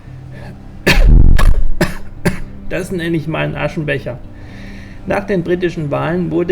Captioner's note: cough